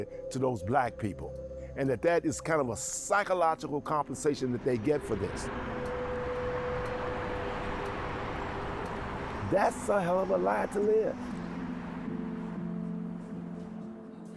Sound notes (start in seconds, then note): 9.2 vehicles passing